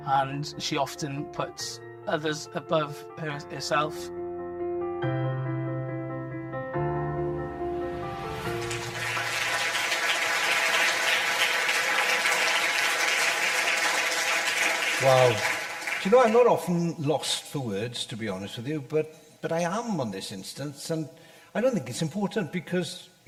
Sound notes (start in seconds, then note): 8.2 audience applause; 8.9 upbeat music